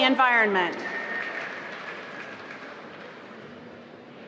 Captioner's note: applause